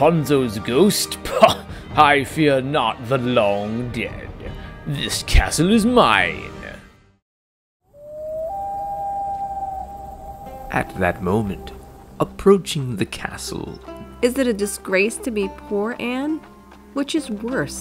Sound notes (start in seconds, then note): 7.9 loon call